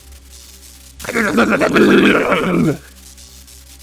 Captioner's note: electrocuted Noises